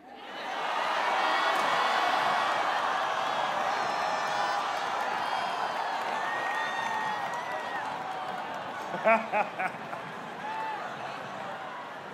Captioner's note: laughter